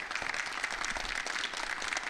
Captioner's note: audience applauding